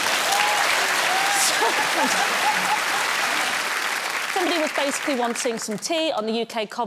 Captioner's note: laughs